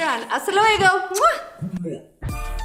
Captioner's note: rhythmic music; lips smack